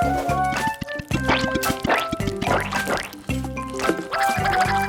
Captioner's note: ice cream pours; ice cream sloshes